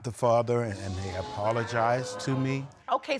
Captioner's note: audience gasping